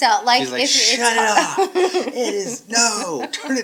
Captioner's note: laughing